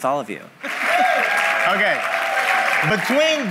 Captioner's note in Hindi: हंसी